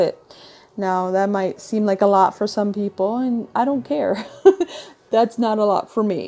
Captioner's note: chuckle